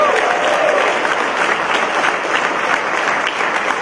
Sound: applause

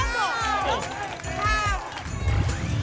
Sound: applause and cheering

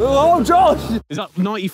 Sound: none

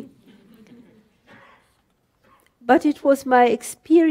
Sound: audience laughter

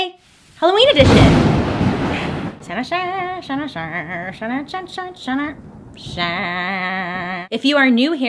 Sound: thunder crack and rainfall

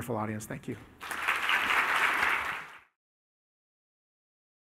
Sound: applause

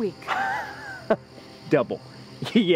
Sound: Bobby laughing

